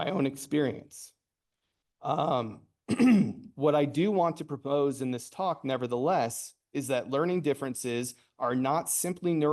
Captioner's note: coughs